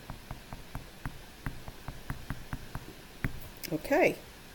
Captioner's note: tapping over on the calculator